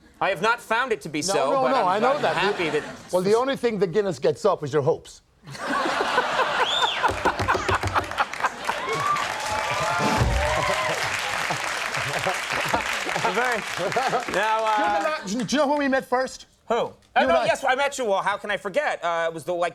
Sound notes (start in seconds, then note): 5.5 audience laughing and cheering